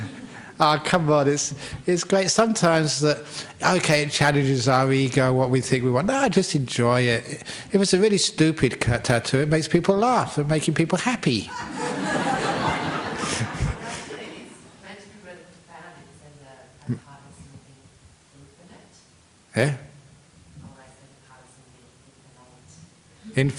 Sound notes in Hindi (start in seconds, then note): 0.0 हँसी; 11.5 हँसी